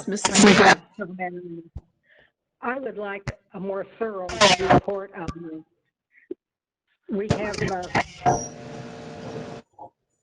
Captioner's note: electronic noise